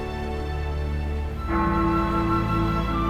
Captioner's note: les cloches de l'église sonnent